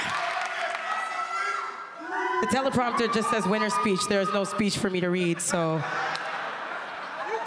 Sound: cheers and Applause

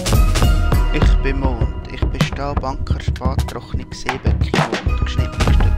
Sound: speaking foreign language

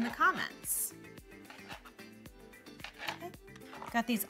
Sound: knife scraping

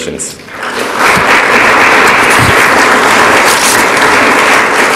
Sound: audience applauds

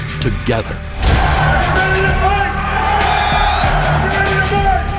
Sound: chanting

